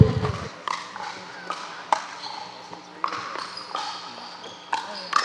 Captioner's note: ball bouncing